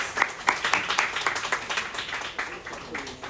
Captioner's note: applause